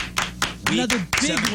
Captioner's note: clapping